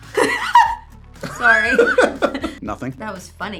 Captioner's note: Ariana laughs; laughs